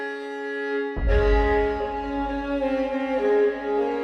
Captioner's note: deep thump